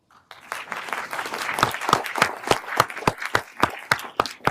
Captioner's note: everyone applauding